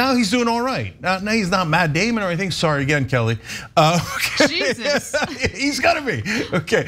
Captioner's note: laugh